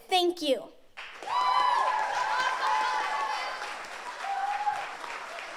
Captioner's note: audience cheers